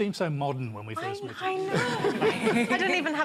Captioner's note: laughter